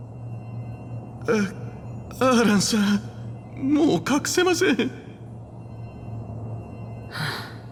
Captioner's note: sigh